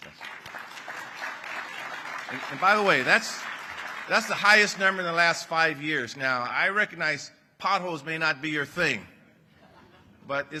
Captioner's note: applause